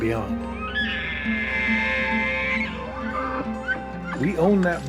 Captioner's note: elk bugling